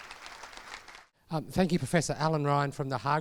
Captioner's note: crowd applauds; voiceover